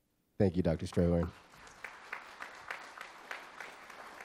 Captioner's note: audience applause